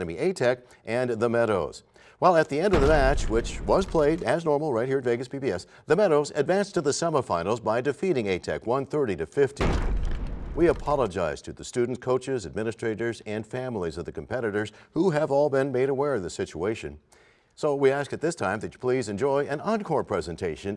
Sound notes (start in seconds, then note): 2.7 crashing sound; 9.6 crashing sound